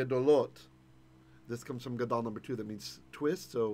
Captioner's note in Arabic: بالعبرية